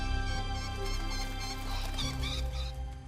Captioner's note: birds call